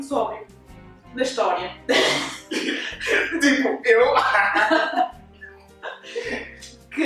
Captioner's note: laughs